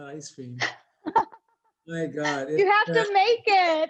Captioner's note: laughs